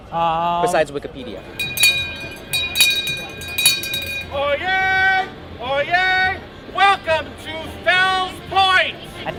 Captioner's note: bell ringing